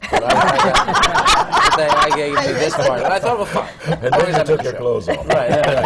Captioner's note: laughter